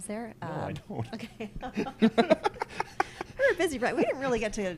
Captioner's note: laughs